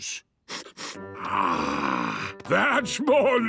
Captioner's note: sniffs